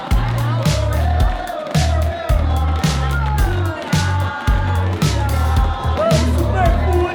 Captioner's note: crowd chanting